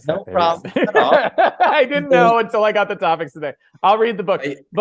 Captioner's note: laughs